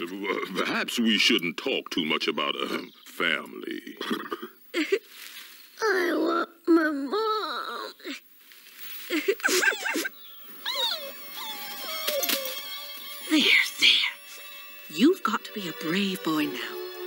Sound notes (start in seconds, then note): 5.8 crying; 8.5 whimpering